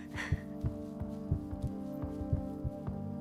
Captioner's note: heartbeats; soft music